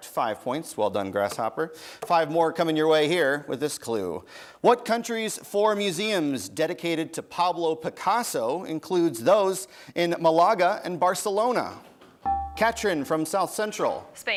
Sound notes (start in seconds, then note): 12.2 bell rings